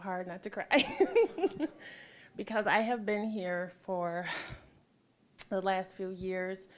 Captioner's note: laughing